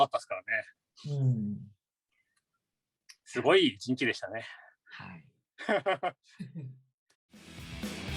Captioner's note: haha